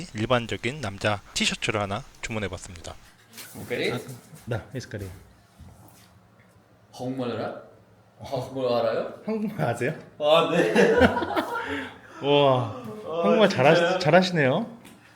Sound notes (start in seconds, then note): 10.5 laughs